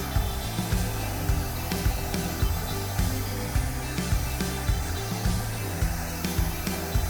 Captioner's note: blow dryer blowing continues; light upbeat music continues